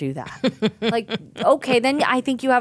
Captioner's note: laughing